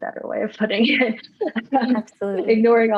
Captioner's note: laughter